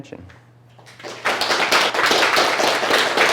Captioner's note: applause